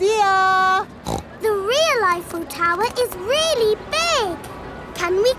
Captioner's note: snorts